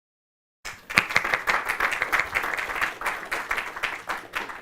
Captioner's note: applause